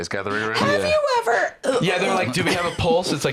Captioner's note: choking